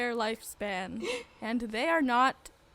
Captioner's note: dramatic gasp